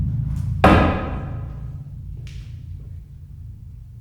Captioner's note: drum booms; pole thudding